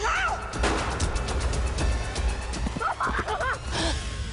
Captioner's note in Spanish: Disparo